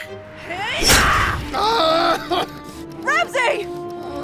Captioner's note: Ramsey screams